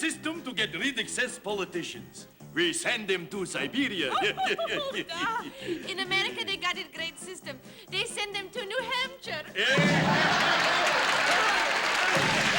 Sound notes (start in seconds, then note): 3.9 laughs; 9.6 laughter